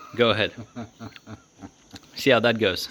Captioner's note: laughing